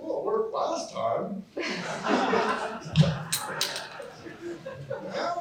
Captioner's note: laughter